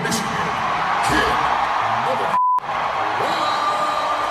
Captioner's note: beep